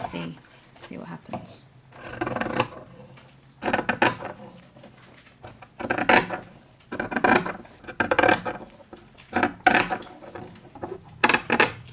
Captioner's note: scissors snipping